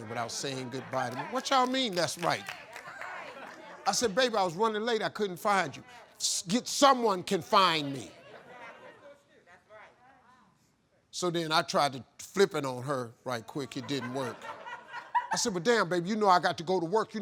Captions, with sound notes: without saying goodbye to me." What y'all mean, that's right? I said, "Baby, I was running late. I couldn't find you." "Someone can find me!" - [Crowd] That's right! - So then I tried to flip it on her right quick. It didn't work. (crowd laughing) I said, "But damn baby, you know I got to go to work.